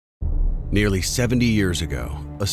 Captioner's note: voiceover